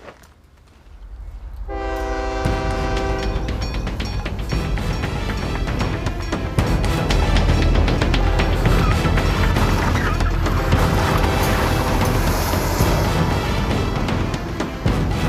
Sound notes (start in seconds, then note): 0.4 train horn sounds and crossing bells ding; 9.8 car screeches around corner